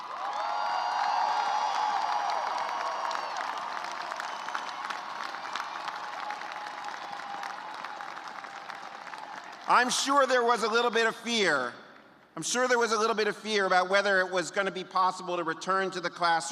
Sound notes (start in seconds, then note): 4.3 cheers and applause